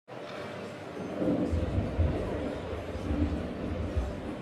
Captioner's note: background static